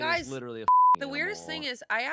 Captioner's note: beep